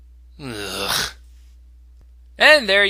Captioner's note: groan